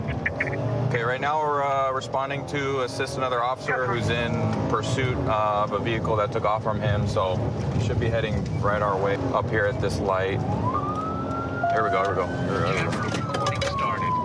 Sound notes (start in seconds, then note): 10.3 sirens